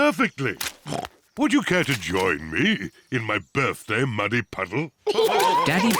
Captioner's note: snorts